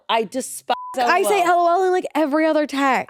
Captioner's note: beep